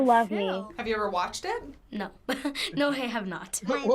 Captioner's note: chuckles